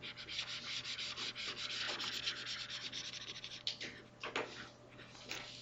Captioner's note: mouse scribbles